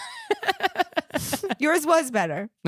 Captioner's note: giggling